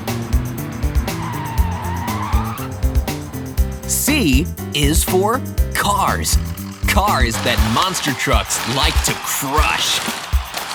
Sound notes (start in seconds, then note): 1.0 screeching